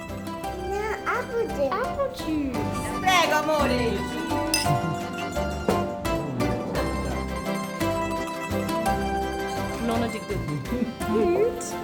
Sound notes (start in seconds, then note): 2.9 speaking Italian; 5.7 lively Italian music